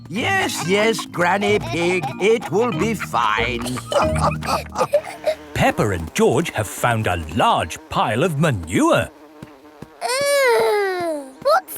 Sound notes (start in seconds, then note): 4.1 all laughing